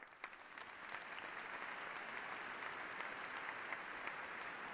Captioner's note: applause